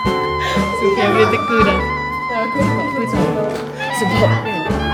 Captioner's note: laugh; speaking German